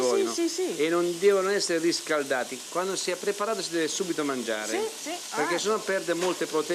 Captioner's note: speaking Italian